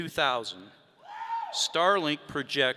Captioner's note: audience member cheering